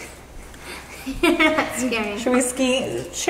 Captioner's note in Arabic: يضحك